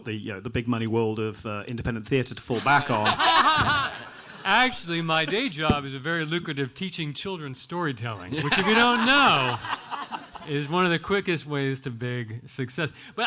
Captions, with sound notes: the big money world of independent theater to fall back on. (everyone laughing) - Actually my day job is a very lucrative, teaching children storytelling, (everyone laughing) which if you don't know, is one of the quickest ways to big success.